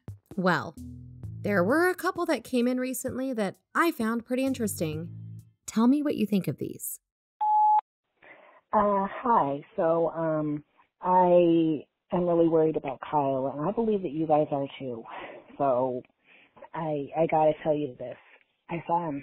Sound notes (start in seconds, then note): 7.0 music pauses; 7.4 beep